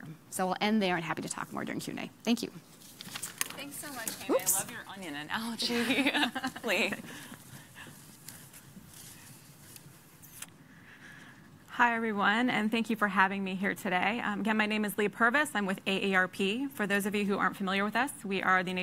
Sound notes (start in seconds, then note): 9.3 laughing